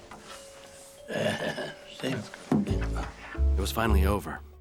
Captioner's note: laughs